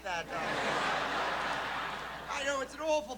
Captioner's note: laughter